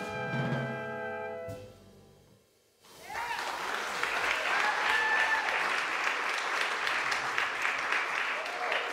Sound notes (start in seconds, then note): 2.9 audience cheering; 3.0 audience applauding